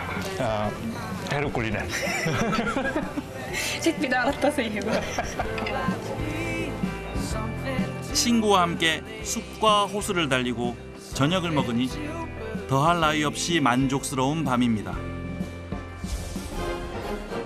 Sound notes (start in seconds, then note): 1.8 laugh